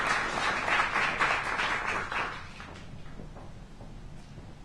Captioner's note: applause